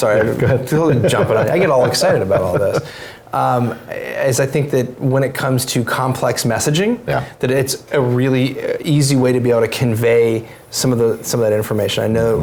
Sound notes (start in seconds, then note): 3.2 laugh